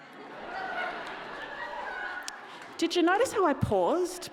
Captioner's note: audience laughing